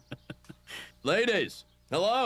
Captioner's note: laughs